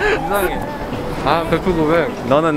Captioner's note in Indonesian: Keduanya terkekeh-kekeh